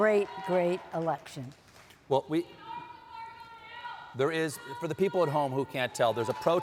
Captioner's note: shouting